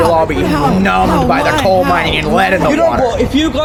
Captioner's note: alien gibberish